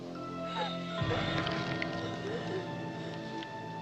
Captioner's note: Nina gasping for air